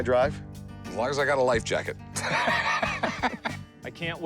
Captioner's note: laughs